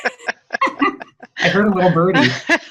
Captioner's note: laughs